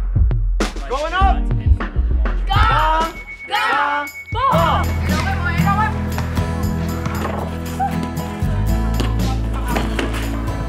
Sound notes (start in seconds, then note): 2.7 speaking in foreign language; 6.3 guitar music